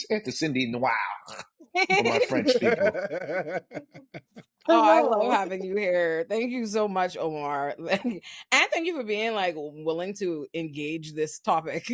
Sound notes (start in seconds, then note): 4.1 laughing